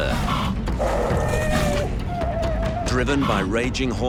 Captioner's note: sea lions grunting